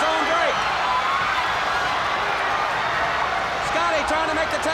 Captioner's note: audience cheers